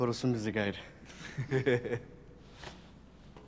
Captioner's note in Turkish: Gülme sesi